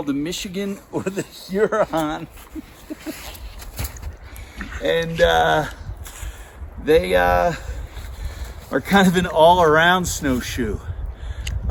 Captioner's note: chuckling